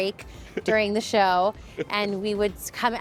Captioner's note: laughing